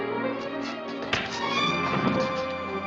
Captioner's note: thudding